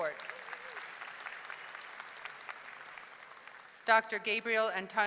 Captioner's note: audience clapping